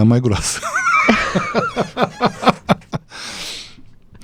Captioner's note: laughter